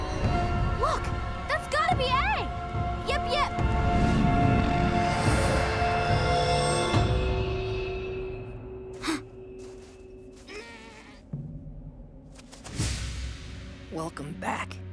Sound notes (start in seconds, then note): 9.0 gasping; 10.2 grunting